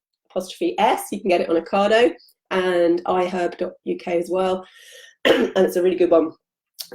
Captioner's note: coughs